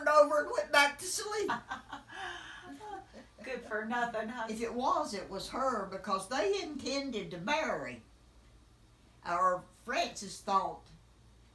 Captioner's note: laughing